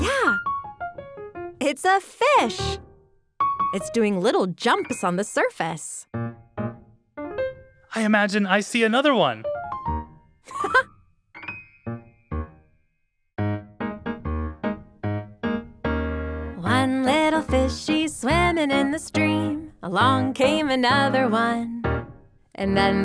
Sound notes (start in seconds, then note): 6.3 upbeat music; 10.4 laughing; 11.8 upbeat music